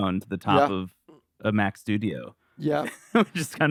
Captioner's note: laughs